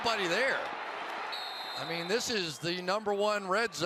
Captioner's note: whistle